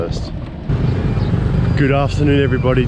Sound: engine roaring

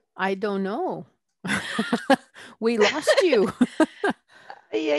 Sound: laughter

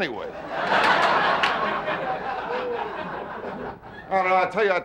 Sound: audience laughing

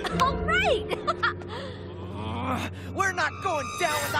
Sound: laughing

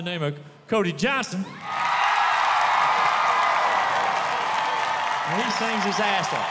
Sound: cheers

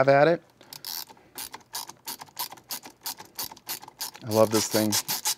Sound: cranking

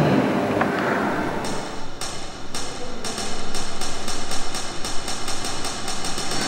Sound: typing sounds

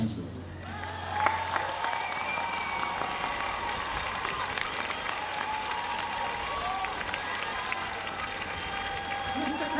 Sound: applause

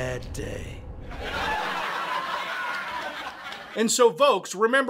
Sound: laugh track

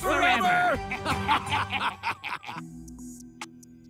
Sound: cackling

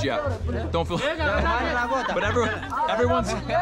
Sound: speaking in foreign language

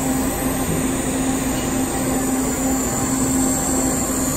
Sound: welding torch sizzling

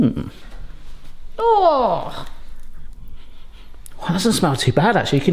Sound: groans

